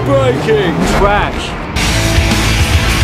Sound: crash

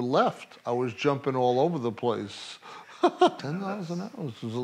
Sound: laughs

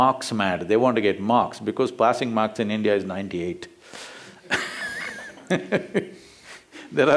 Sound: laughs

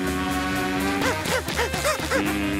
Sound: buzzing; panting; buzzing

